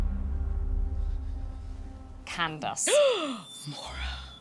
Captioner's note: gasps